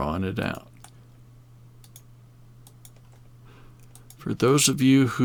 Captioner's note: mouse clicking